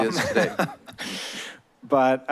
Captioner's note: laughter